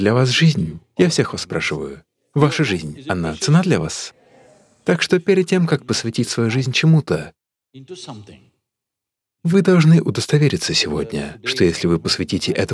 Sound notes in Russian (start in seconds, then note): none